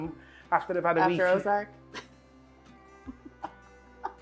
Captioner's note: laughs